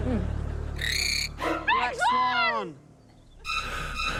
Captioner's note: menacing screech; sinister music